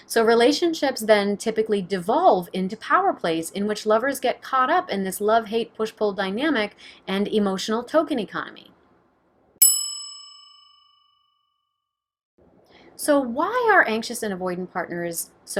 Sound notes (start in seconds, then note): 9.6 bell dinging